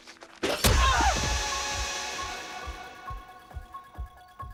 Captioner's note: screaming